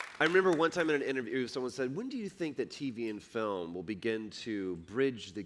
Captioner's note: applause